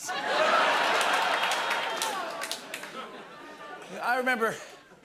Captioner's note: laughter